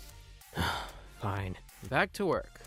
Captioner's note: sigh